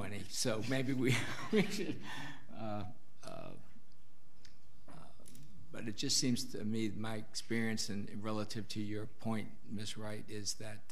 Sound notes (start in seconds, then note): 2.0 laughing